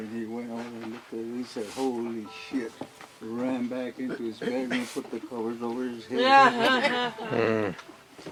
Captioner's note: laughter